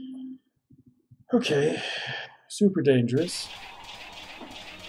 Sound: sighing

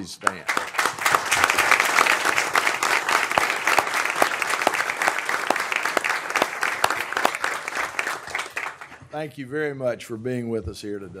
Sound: applause

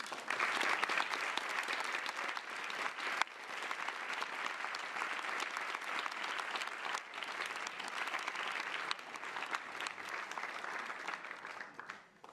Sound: applause

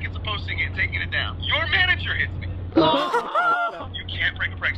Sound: gasps

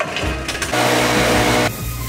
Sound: engine revving

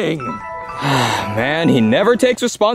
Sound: soft music; Mario sighing

